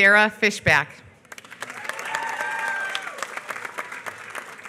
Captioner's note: applause